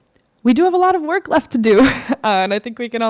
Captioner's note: chuckles